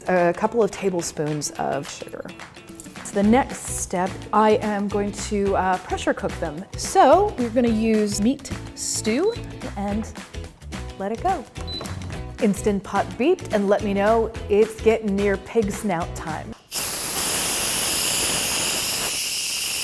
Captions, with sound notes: A couple of tablespoons of sugar. It's the next step, I am going to pressure cook them. So we're gonna use meat stew and let it go. (beeping) Instant Pot beeped and let me know it's getting near pig snout time. (steam releasing)